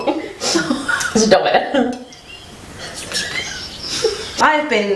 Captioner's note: laughs